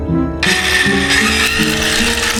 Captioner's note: sawing